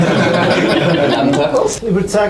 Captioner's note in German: lachen